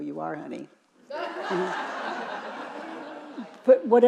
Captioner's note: audience chuckling